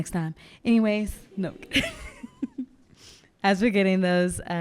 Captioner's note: laughing